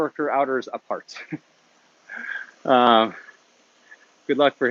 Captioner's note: laughs